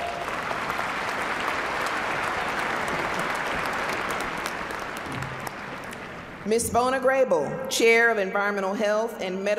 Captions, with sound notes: >> WILL THE CANDIDATES FOR DEGREES IN BACCALAUREATE AND GRADUATE NURSING PLEASE STAND. [ APPLAUSE ]